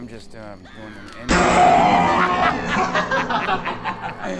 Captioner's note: doll cackling; air whooshing; Brad laughing